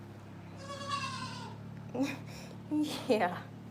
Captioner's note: goat bleats